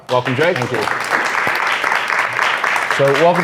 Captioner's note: handclaps